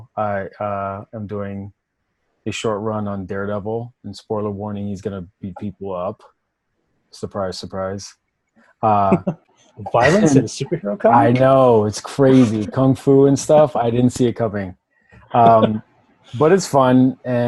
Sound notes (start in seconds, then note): 9.8 laughing